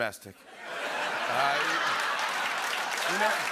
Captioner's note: laughter and applause